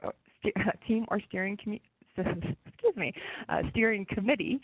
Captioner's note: chuckles